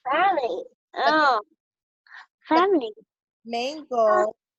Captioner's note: murmurs